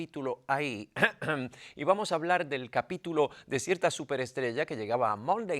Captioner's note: cough